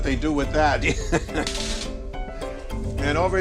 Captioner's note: Jerry laughing